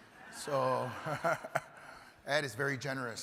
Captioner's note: chuckles